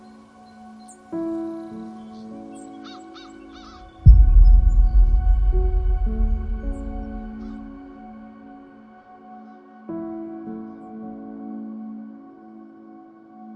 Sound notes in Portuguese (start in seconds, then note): 0.0 trilha romântica; 4.0 impacto; 6.2 trilha romântica